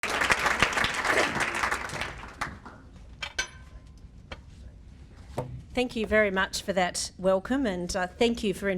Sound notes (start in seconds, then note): 0.0 audience Applause